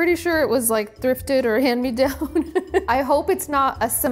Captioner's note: laughs